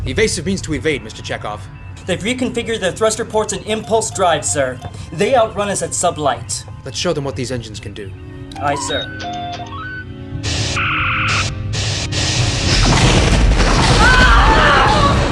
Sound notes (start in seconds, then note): 11.8 strong phaser fire; 12.2 explosions